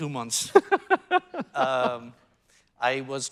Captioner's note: laughing